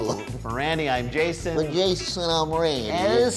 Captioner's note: italian accent